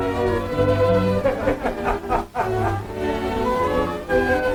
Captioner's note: group laughing